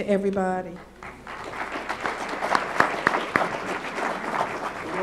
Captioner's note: applause